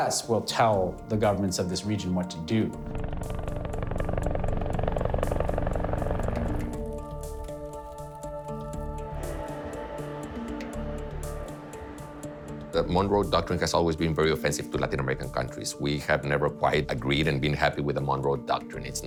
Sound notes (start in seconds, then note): 2.8 helicopters whirring; 7.0 soft music